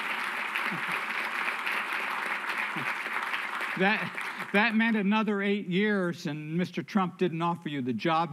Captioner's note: applause